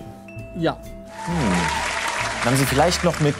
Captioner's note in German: Jubel, Applaus